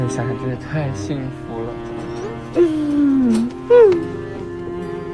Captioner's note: sobs